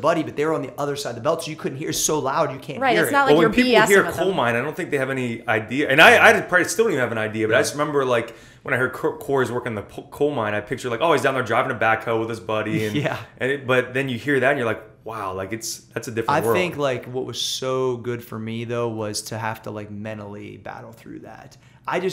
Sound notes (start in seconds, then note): 12.7 laughs